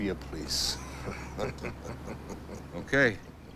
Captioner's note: group laughs